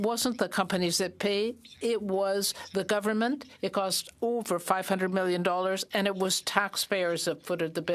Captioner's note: speaking French